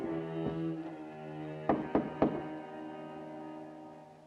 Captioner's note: door knocks